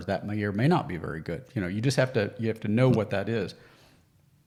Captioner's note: none